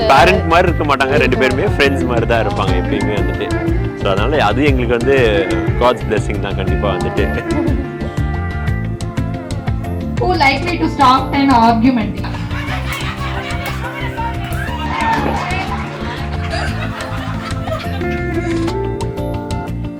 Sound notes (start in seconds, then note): 13.6 laughs; 16.4 people cheering